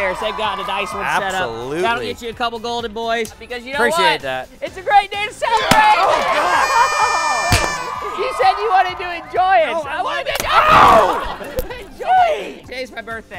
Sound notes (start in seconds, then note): 5.6 pop; 6.9 cheering